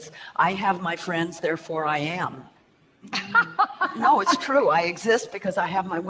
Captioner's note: laughs